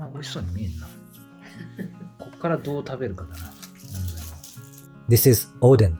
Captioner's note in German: lacht